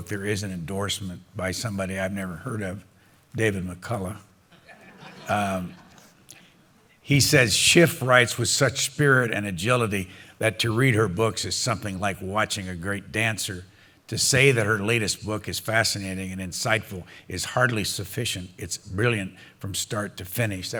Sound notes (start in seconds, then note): 4.5 laughter